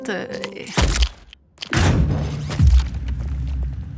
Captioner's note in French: Bruits mécaniques